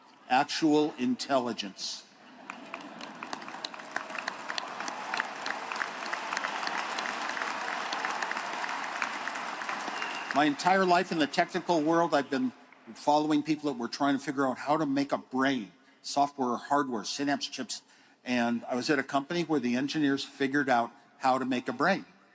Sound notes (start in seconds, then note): 10.2 applause